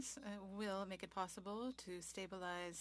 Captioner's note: speaking French